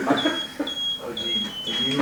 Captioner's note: laughter